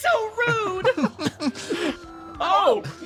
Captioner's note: laughs